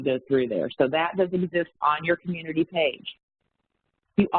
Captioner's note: audio warps